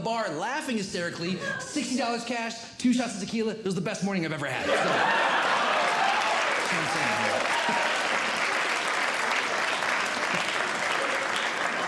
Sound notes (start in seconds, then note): 4.6 audience Laughing; 7.8 audience Clapping